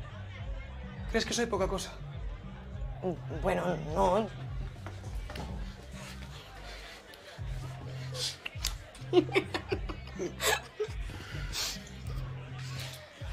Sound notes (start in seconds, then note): 8.9 laughs